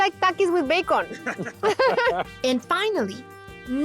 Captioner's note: both laugh